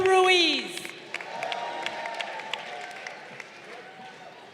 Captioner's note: crowd applauding